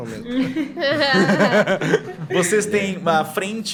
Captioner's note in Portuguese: risadas